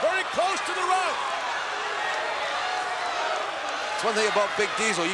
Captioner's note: crowd cheering